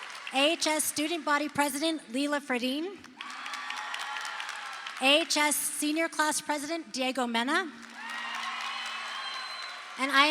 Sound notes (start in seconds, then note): 0.0 crowd cheers; 3.1 crowd cheers; 7.8 crowd cheers